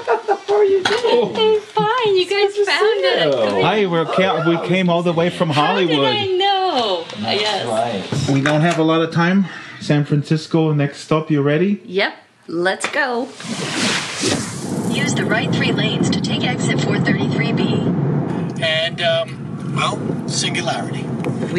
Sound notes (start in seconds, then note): 0.0 laughs; 15.1 auto GPS speaking; 18.3 car radio plays episode of "Majority Report" with host Sam Seder